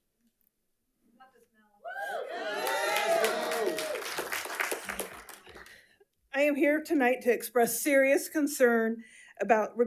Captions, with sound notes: (audience cheers and applauds) - I am here tonight to express serious concern